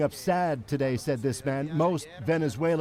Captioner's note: speaking spanish